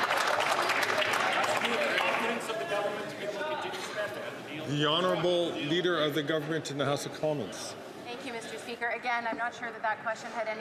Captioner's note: applause